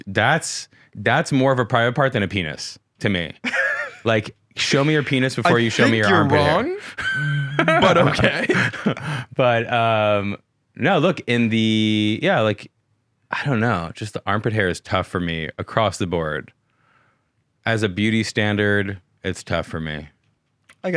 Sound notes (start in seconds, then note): 3.6 laughing